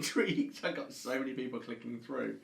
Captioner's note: chuckles